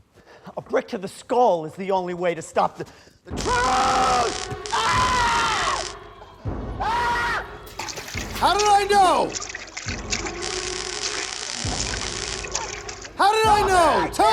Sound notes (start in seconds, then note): 3.4 screaming; 4.2 zapping